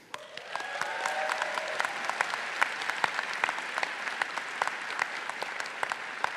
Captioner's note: faculty, audience, and graduates applauding